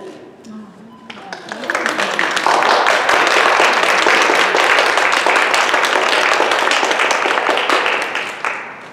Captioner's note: applause